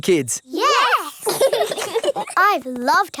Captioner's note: laugh